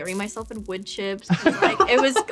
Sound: laughter

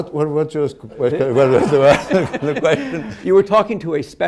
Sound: laughter

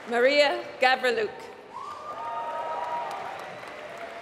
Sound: applause

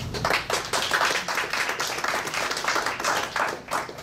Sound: audience claps

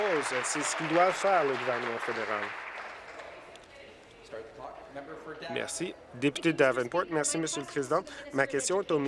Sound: applause

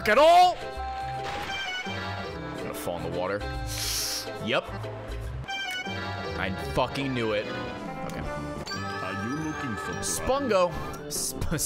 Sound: laughs

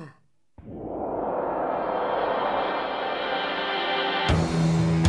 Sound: gasps; bwom; dramatic music

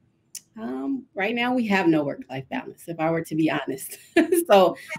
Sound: laughs

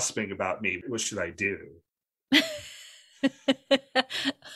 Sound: laughs

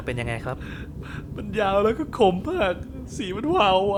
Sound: sob

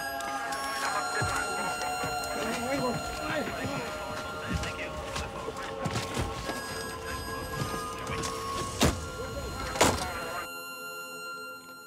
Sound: police radios buzzing

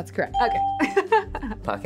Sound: laughing

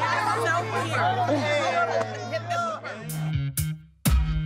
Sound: laughs; calm upbeat music

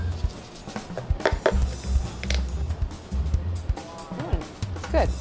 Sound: tapping

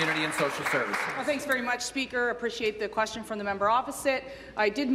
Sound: applause

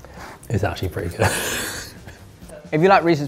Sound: laughs

